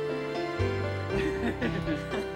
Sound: laughter

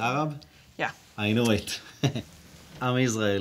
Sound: chuckles

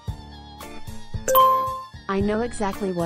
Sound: ding

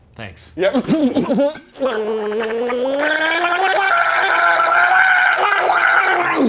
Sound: aggressively gargling water

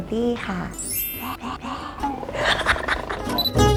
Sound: หัวเราะ; laugh

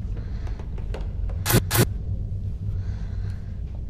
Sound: static noise

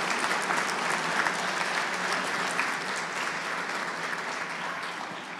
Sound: cheers and applause

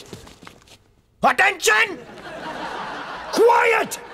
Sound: all laughs

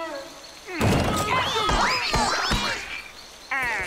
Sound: groaning

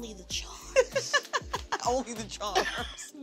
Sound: laughs

